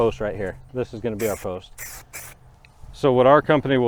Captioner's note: paint sprays